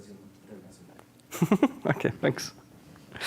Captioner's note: laughing